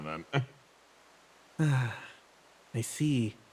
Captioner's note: sigh